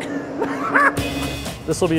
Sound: laughs

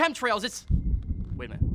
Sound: thunder rumbling

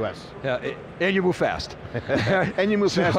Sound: laughs

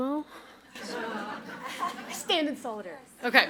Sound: audience laughs

